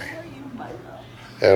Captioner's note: soundbite of archived recording